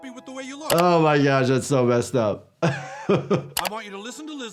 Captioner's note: laughs